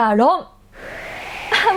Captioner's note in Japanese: 風の音